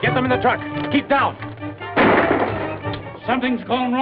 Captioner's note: gunshot